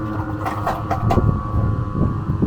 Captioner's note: wheels rattling; machine buzzing; wind whooshing